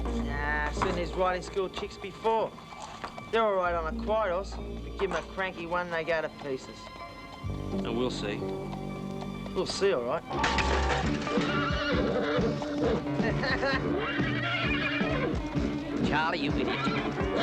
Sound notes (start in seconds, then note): 10.2 horse whinnying; 10.3 bucket clangs; 13.1 Charlie laughing